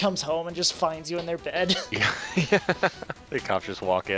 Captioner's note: both laugh